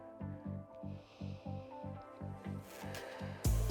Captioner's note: inhales; exhales